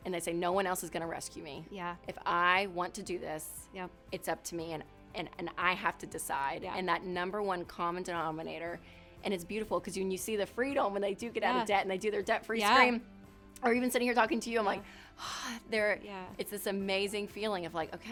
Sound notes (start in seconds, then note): 15.5 exhales